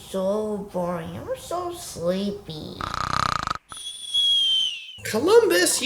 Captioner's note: snoring